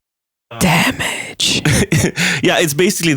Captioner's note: whispered